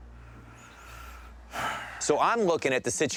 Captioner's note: sighs